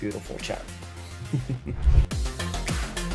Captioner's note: laugh